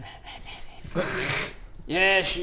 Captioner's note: very mature snickering